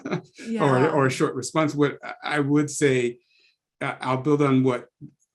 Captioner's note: laugh